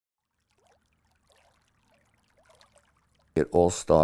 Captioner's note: water rippling